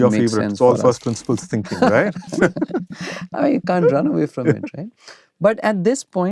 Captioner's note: laughter